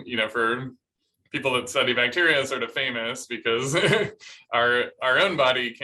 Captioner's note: laughter